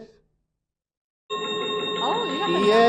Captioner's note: chiming sound effect